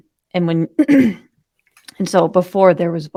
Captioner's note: clears throat